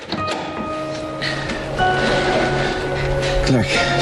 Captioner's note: breathing heavily